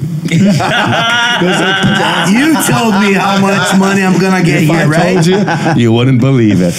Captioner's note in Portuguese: risos